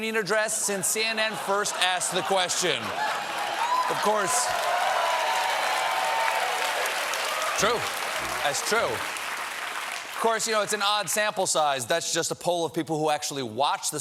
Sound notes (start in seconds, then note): 3.5 applause; 3.8 cheers